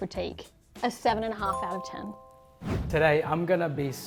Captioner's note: chime